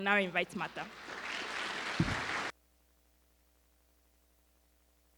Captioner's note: audience applauding